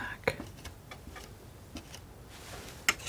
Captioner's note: scratching